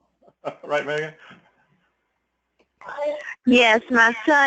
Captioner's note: laugh